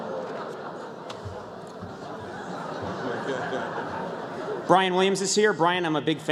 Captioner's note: crowd oohs